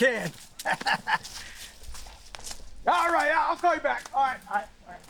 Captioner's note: leaves crunching